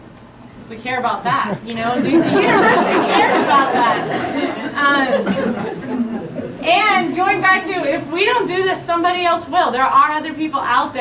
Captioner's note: crowd chuckling